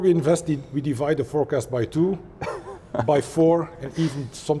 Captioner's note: laughs